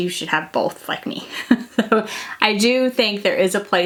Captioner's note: chuckling